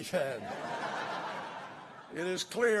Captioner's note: laughter